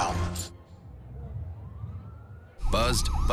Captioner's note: distant siren